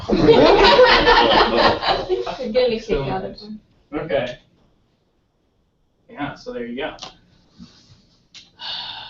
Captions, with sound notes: going beyond that. >> Yeah. >> You are using the online these questions. [LAUGH] I'm getting a kick out of them. >> Okay.